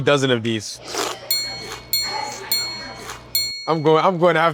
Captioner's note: bell dinging